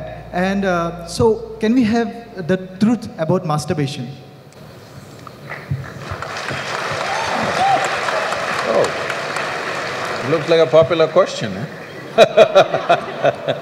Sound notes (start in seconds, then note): 5.8 applause; 11.8 laughs